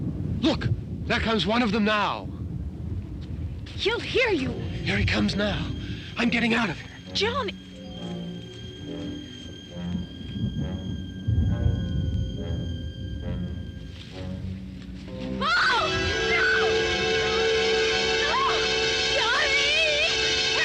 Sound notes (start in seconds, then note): 8.4 foreboding instrumental music; 15.4 screaming; 16.6 dramatic instrumental music